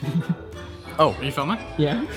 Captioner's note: chuckles